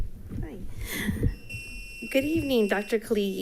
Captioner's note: device buzzing